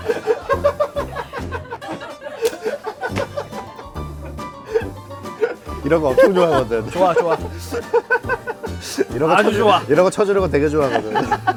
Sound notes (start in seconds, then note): 3.0 clap